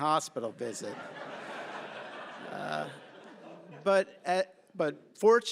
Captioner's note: laughter